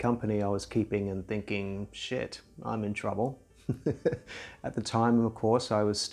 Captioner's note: chuckles